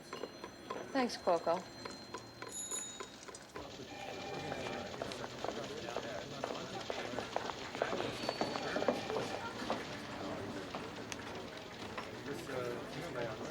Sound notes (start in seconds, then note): 3.3 murmuring; 3.3 phones ringing